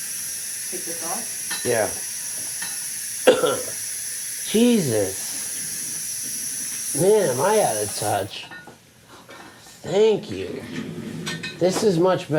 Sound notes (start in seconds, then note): 3.2 coughing